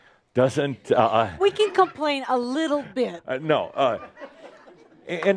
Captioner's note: a few chuckles